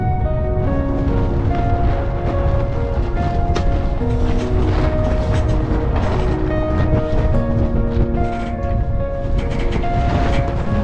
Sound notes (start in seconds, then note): 1.2 wind blowing